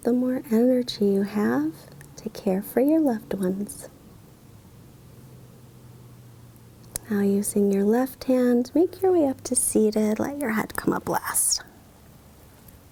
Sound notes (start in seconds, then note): none